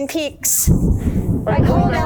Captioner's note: thunder clapping